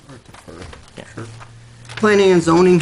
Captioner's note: trustees whispering